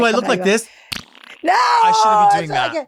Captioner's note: mouth farting